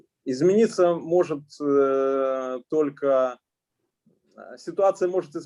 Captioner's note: speaking Russian language